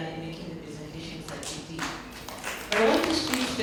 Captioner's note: applause